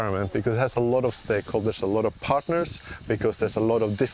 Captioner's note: none